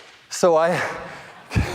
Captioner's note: laughing